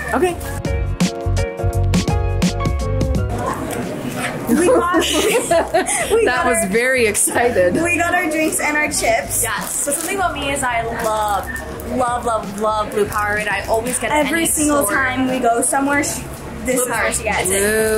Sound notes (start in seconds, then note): 0.0 upbeat music; 4.5 laughs